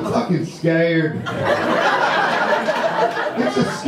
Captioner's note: audience laughter